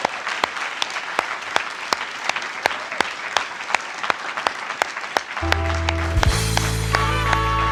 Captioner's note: applause